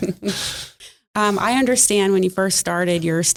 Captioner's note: laughing